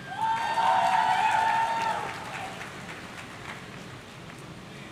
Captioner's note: audience cheering